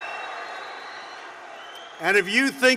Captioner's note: applause